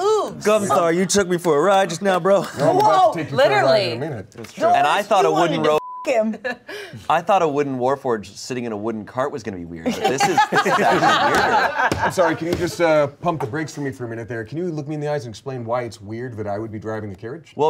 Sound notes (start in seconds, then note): 5.6 beep; 9.9 everyone laughs